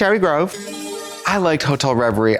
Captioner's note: bright chime